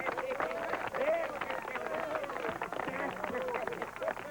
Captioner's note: laughing